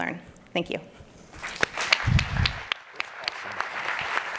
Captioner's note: audience applauding